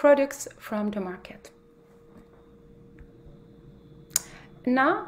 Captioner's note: mechanical humming